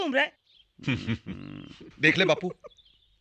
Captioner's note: chuckling